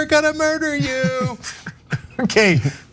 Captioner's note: laugh